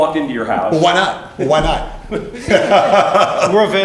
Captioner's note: laughs